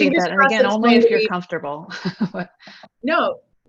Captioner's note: laughs